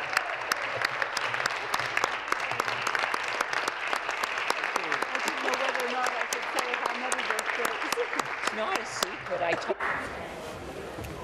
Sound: applause

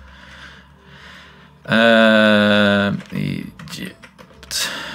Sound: groans; sighs

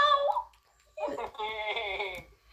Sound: laughter

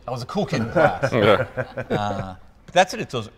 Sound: group laughing

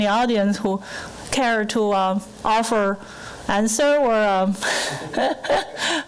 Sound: laughing

